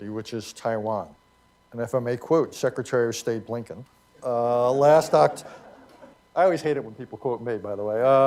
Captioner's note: laughter